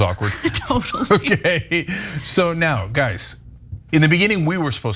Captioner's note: laugh